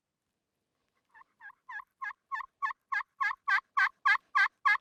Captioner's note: turkey calling